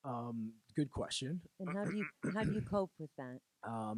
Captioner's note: laughing